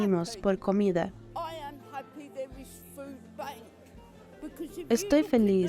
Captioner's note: Hablando idioma extranjero